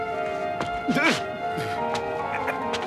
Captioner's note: grunting